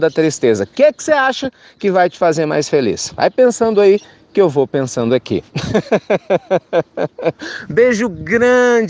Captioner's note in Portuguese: risos